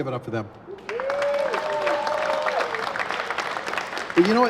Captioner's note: applause